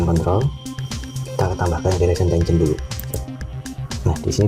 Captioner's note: click